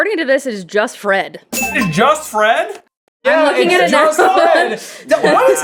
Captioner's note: laughs